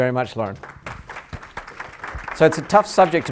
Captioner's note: applause